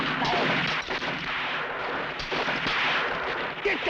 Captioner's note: bullets clattering